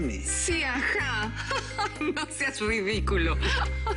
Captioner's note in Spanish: Risa sarcástica